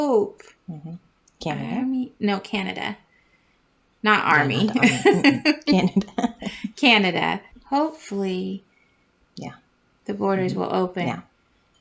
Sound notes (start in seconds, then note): 4.3 laugh